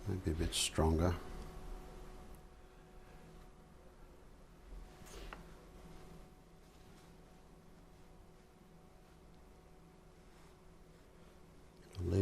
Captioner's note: silence